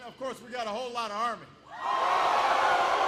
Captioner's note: applause